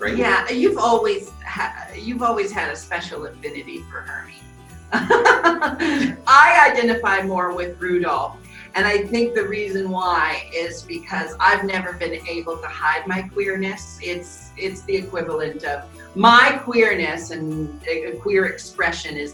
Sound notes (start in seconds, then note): 4.9 Jinxx giggling; 5.1 bells jingling